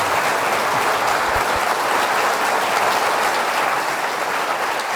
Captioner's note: audience cheering